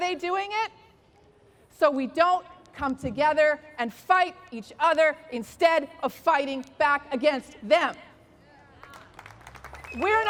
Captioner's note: applause